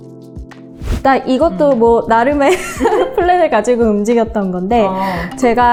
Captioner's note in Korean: 웃음